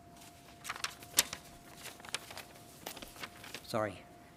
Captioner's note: paper rustling